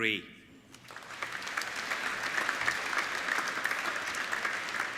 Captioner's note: applauding